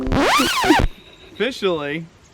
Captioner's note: record scratch